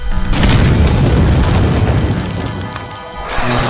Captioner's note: rocks exploding; creature roaring; electricity crackling